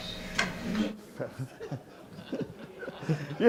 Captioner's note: audience laughing